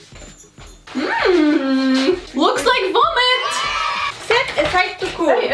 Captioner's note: children saying YAY